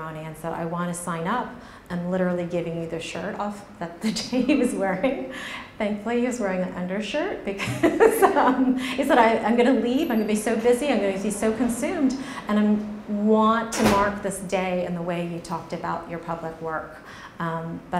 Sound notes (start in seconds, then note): 7.6 laughs